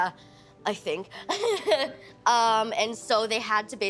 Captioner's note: laughing